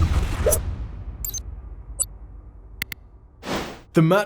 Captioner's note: metallic whooshing; dramatic percussive music; electronic clicking; whoosh